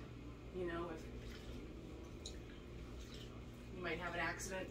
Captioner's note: water sloshing